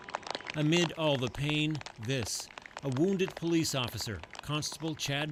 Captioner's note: applause